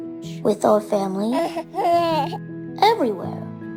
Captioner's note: baby giggle